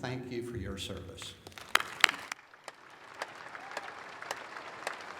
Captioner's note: applause